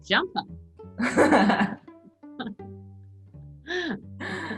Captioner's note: both laughing